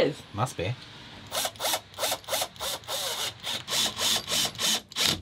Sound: drill buzzing

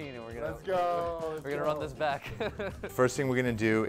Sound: laughs

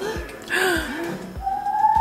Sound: gasping; child whooping

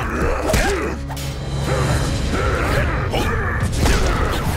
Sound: grunting; grunting

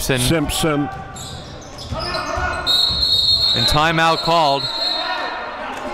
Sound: whistle blows

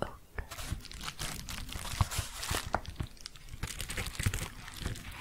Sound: crinkling

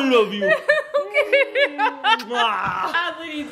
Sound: laughing; smooching loudly

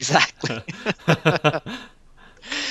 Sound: laughing

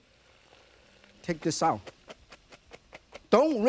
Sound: pot clicking; water trickling; pasta shuffling

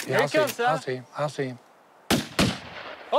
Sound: guns firing

